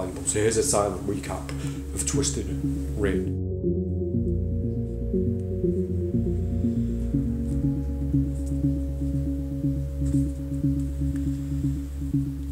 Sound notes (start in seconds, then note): 3.3 cards shuffling; 3.3 soft epic music